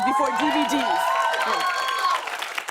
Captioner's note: cheers and applause